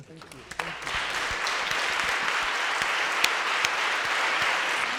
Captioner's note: audience applauding